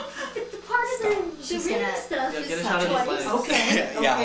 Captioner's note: group chattering